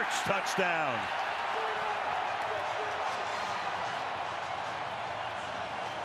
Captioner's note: cheers, applause